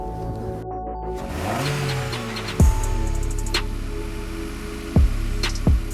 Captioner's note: slow techno music; car engine revving